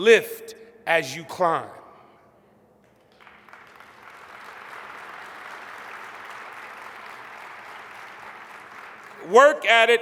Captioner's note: applause